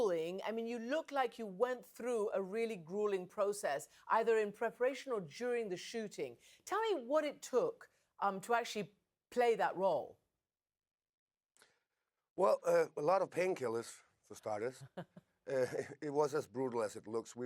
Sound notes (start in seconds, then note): 15.4 chuckling